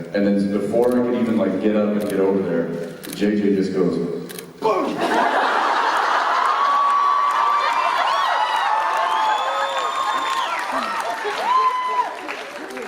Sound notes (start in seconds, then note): 4.1 imitates knockout punch; 5.0 applause and laughter